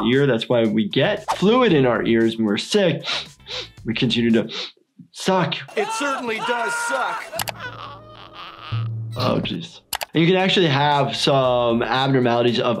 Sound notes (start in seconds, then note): 2.9 sniffing; 5.7 screaming; 7.5 giggles groaning